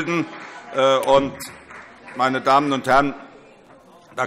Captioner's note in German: Vereinzelter Beifall SPD und AfD